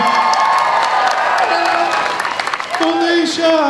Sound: crowd applauds

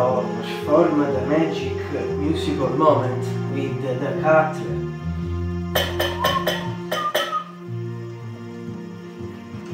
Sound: whistle

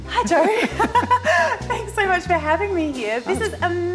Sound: chuckles

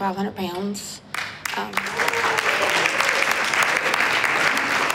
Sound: applause

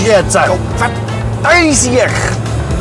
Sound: curses

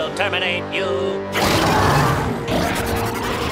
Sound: roaring

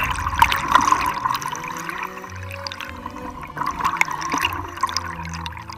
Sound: classical music playing; deep breathing

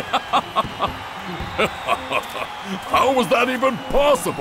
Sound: laughing

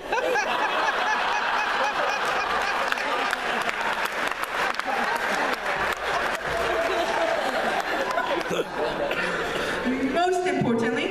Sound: laughter

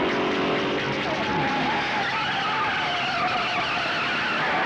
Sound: tires squealing

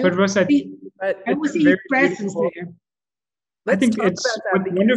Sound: group chattering

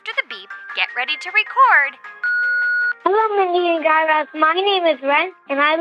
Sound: soundbite of beep

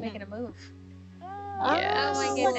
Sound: group wowing

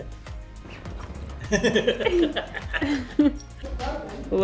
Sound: laughing

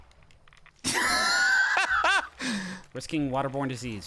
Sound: laughing

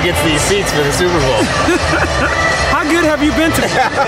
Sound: laughing

